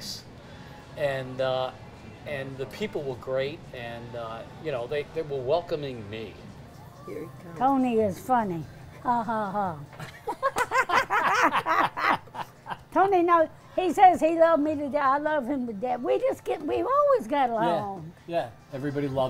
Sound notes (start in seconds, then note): 8.8 laughs